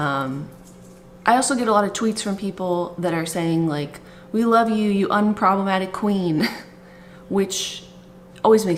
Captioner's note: chuckles